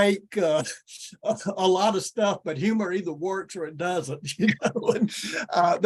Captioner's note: chuckles